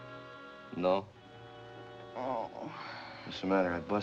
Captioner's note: groans